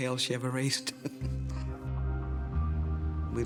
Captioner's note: laughing